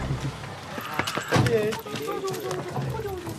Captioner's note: quiet voices